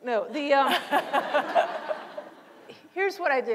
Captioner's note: laughter